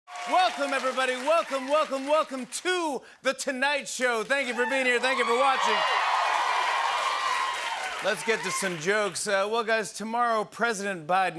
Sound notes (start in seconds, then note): 5.9 cheers and applause